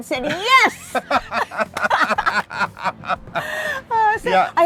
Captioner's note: both laugh